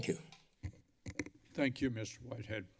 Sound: mic thump

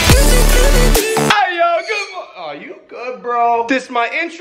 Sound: maverick squawking

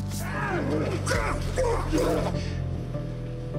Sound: grunting

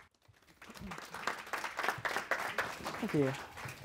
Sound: audience applause

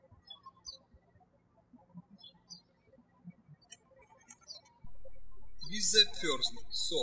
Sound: birds chirping

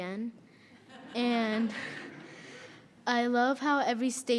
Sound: audience laughs

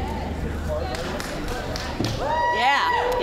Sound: applause, cheering

